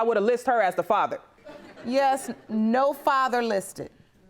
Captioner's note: audience titters